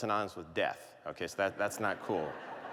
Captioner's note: laughter